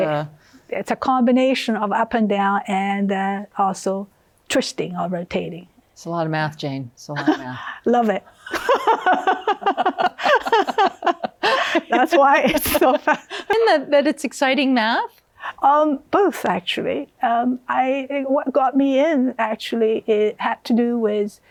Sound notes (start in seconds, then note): 8.4 both laughing; 8.4 laughs